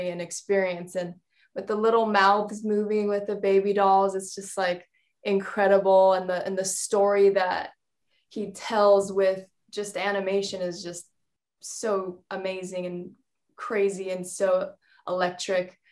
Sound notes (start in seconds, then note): none